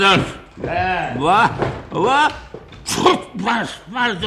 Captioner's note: sneezes